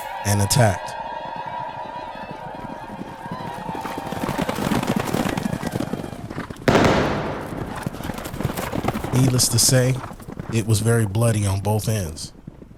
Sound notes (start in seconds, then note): 0.0 Apache war cries; 4.1 gunshots; 4.1 horses running